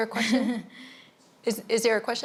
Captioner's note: giggles